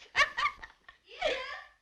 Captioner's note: laughing